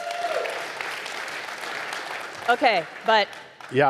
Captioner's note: audience applauding